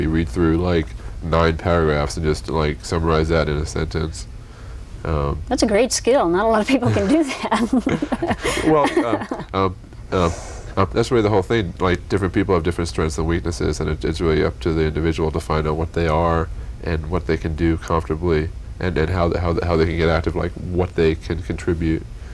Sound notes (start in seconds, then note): 6.8 laughter